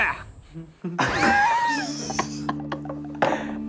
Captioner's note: laughing